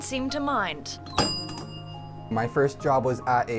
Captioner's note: bell dings